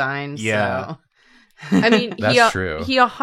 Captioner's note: laughs